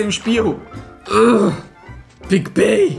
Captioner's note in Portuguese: resmunga